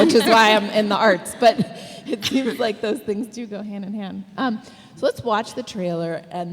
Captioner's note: laughs